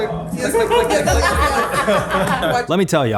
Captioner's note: laughs